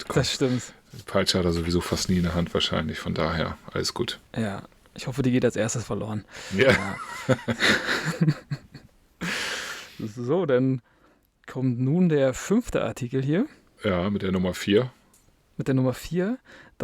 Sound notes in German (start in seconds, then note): 6.6 gelächter; 9.4 japst